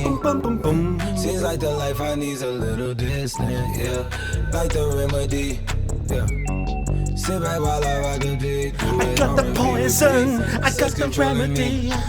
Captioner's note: pitch shift sounds